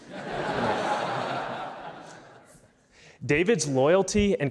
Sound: audience laughs

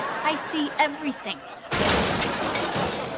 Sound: crashing

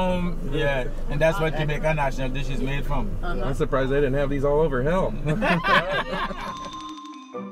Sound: laughing

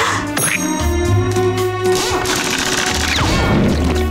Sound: drill whirring

